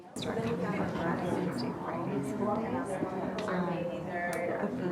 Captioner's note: audience mumbling